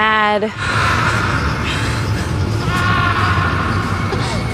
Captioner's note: Papa screaming